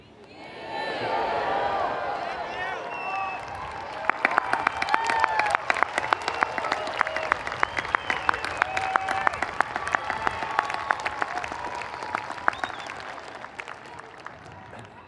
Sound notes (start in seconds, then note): 4.2 audience applauding; 4.2 audience cheering